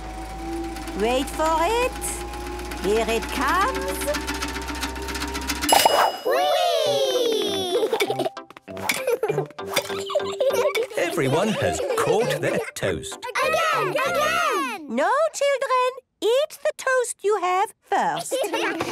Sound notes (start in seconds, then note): 0.0 super toaster vibrating; 4.2 pings; 13.3 children calling out